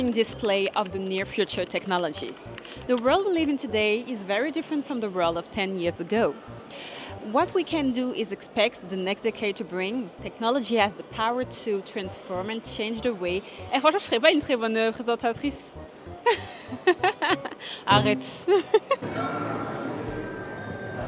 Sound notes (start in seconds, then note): 18.4 laughs